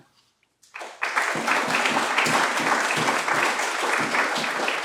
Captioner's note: applause